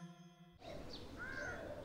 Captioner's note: birds chirping